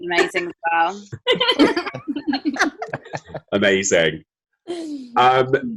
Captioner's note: laughter